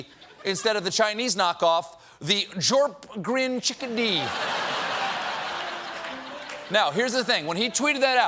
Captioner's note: laughter